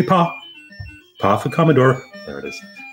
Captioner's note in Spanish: dicho en acento americano